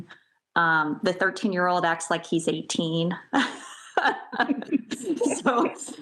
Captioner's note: laughs